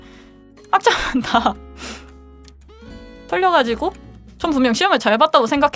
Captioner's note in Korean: 웃음